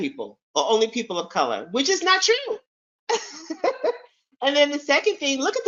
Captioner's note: chuckles